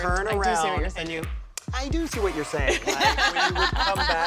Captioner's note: laughter